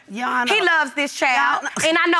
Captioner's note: none